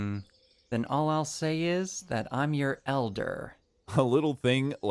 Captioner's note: incredulous